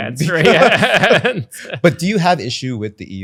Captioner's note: laughs